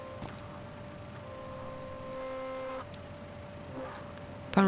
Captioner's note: VHS tape sounds